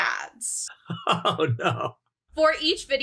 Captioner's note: laughs